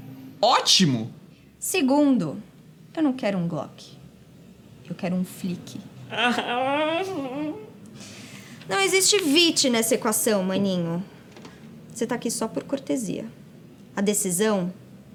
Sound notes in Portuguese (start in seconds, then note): 6.0 chorando